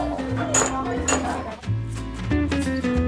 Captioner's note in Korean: 세상에서 제일 경쾌한 종소리